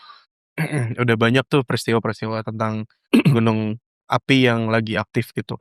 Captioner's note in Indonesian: berdehem